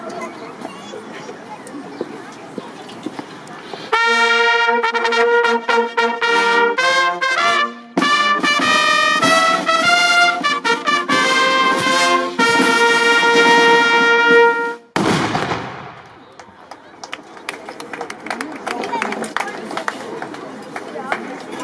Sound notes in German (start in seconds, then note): 14.9 Kanonenschuss; 16.3 Applaus